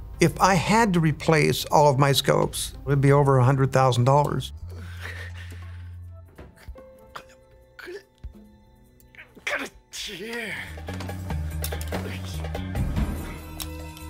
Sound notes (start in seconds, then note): 5.3 speaking in foreign language; 11.2 energetic music